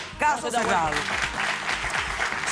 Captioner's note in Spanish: aplausos